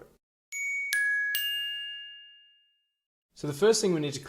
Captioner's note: electronic bell tones